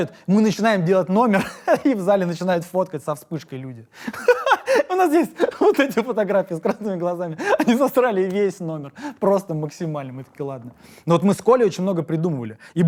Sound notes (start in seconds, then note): 4.0 laughs